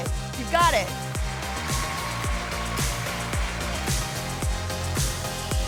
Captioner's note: audience cheering